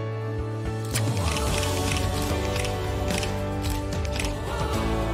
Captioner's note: camera clicks repeatedly